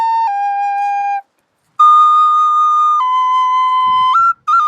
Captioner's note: none